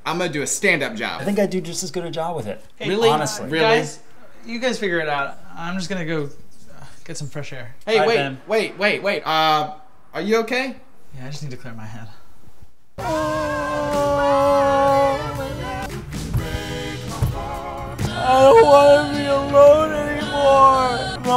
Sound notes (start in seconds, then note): 13.0 Ben sobs